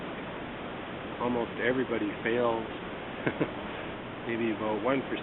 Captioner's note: laughter